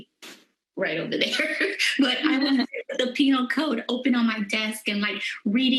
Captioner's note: laughter